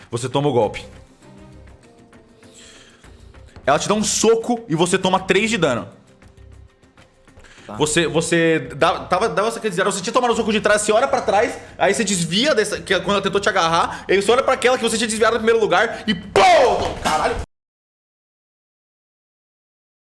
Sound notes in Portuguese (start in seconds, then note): 16.3 Pow